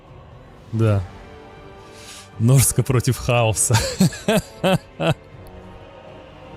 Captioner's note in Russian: смех